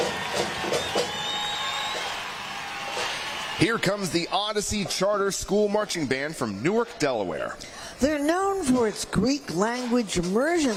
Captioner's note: applause